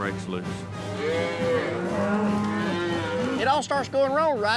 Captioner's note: mooing